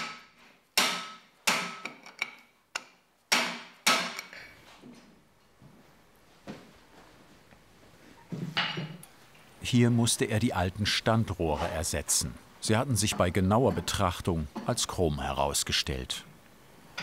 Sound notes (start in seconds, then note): 0.8 hammering